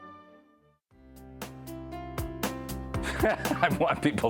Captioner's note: laughing